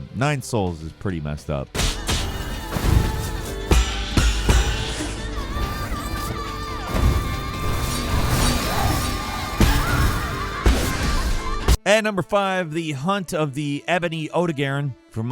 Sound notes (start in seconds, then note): 1.7 dramatic music; 1.8 shield clanking